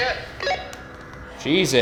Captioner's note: walkie talkie beeps